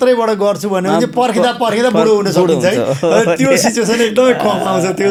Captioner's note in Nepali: हास्य